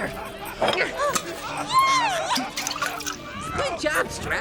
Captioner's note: chugging potion